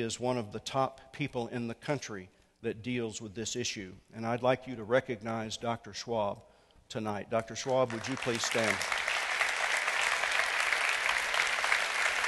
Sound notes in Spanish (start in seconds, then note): 3.4 Aplauso